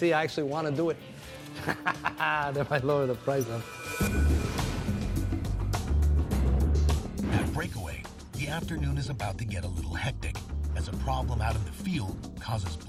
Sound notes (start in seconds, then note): 1.4 laughs